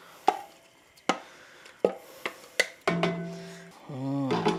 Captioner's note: spoon thumping